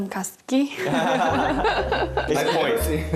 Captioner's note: ha ha ha ha ha